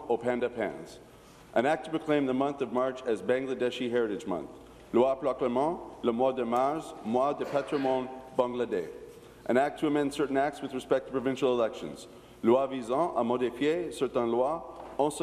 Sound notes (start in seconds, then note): 0.0 speaking in french